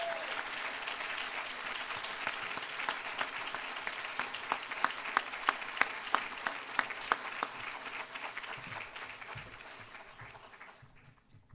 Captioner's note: applause